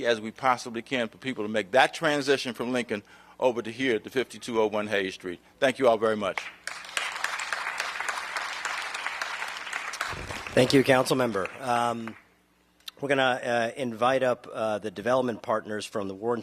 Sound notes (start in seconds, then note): 6.3 applause